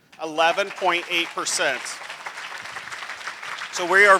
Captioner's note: applause